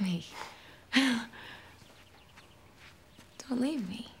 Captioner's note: laughing